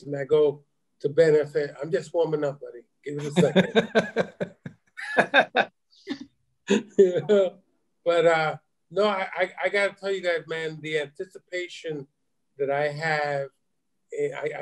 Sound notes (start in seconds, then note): 3.2 laughing